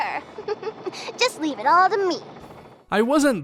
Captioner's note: giggles